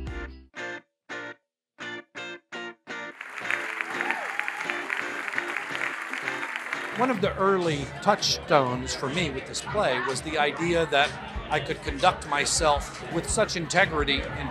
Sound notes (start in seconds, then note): 0.0 bouncy music; 3.1 audience clapping